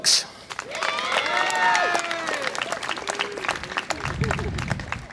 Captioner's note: audience applause and cheer